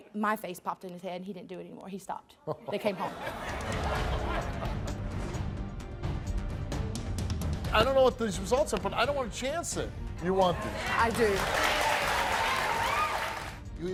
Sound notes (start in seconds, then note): 2.5 laughs; 3.3 suspenseful music; 12.1 audience claps